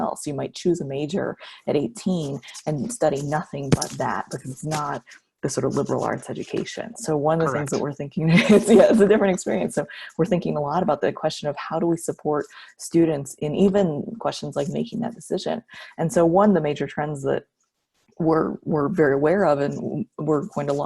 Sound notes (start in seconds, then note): 7.4 laughs